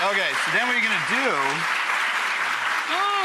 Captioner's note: clapping